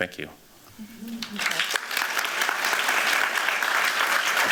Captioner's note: applause